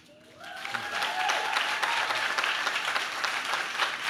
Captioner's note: audience claps